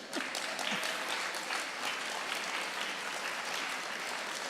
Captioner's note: audience applauding